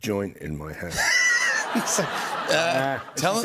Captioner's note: laughter